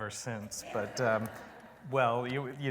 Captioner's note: laughter